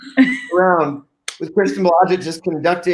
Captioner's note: group laughing